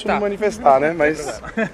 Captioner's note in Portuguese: risos